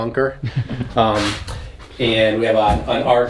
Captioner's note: camera man laughs